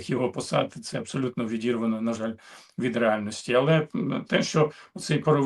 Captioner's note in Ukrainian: прочищення горла